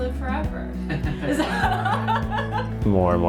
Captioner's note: laughter